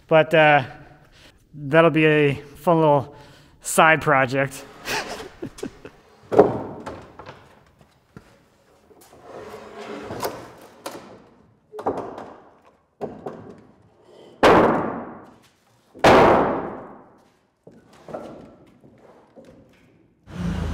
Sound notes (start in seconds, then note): 4.8 chuckling; 6.3 wood thudding